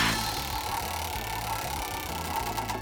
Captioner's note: wheel spins